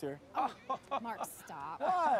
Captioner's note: man laughs